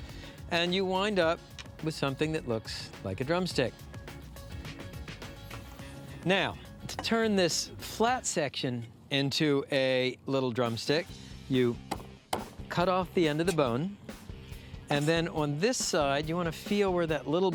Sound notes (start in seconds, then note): 12.3 chopping sound